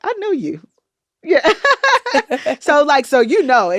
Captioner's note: laughter